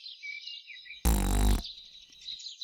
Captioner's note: gnome breaks wind